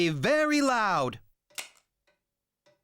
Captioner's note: click!